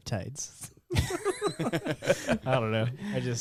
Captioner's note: laughing